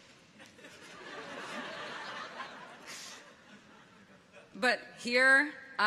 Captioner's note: audience chuckles